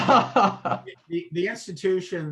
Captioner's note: both laughs